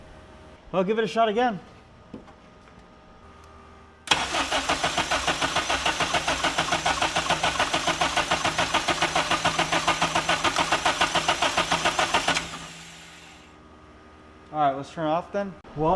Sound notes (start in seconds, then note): 4.1 car engine revving